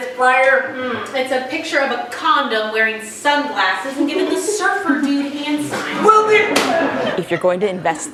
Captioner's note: Principal stutters